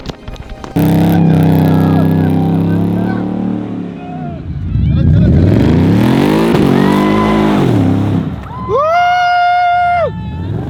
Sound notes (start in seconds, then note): 0.7 engine vrooming; 8.4 cheering